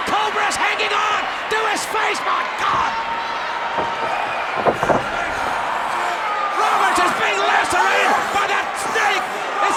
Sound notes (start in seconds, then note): 4.2 Jake wailing